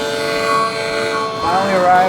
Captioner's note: harmonica playing; film rolling